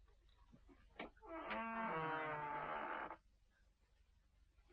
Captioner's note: door creaking